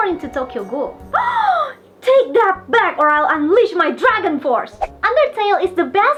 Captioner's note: gasp